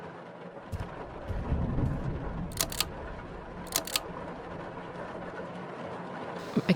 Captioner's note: rain and thunder continue throughout